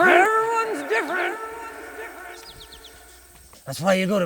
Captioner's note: voice echoes